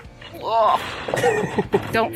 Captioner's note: swooshing; groans; laughs